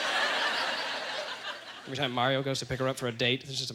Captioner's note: audience laughter